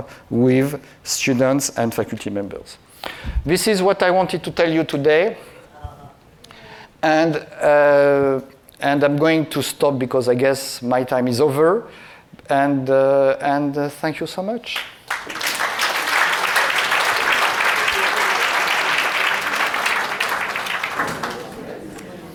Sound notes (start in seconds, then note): 14.7 audience clapping